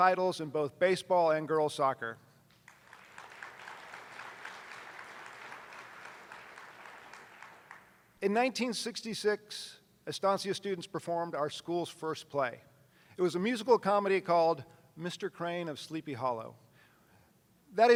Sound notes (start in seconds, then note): 2.6 attendees applauding